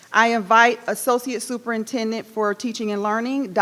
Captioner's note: none